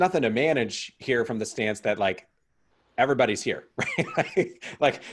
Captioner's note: chuckling